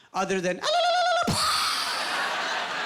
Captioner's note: ululating and imitating bomb exploding